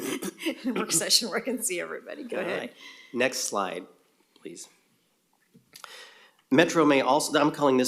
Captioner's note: laughter